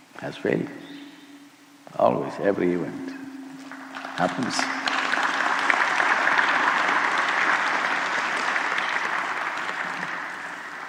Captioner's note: applause